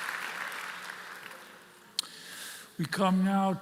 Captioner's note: applause